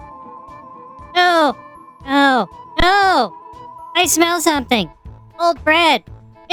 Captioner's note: eyes lighting up, voice rising to a dangerous volume